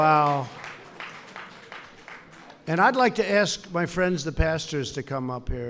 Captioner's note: applause